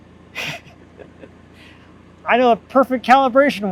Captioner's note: laughing